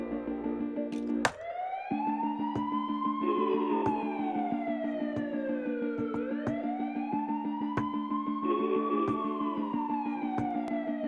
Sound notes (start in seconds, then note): 1.7 siren blaring